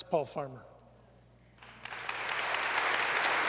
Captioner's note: applause